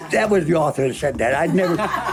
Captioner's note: laughing